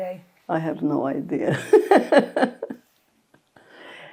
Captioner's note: laughing